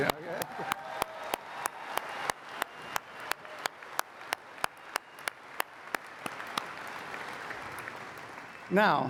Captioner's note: applause